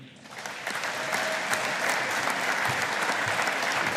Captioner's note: audience applauding